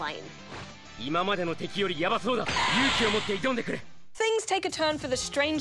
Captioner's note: man speaks japanese